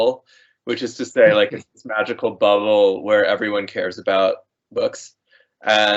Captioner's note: chuckling